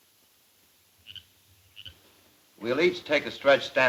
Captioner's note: frog croaking